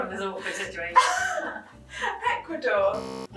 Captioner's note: laughing